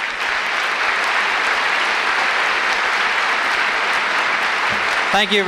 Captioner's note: applause